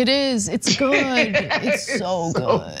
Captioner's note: laugh